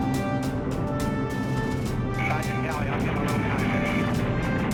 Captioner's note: muffled radio speech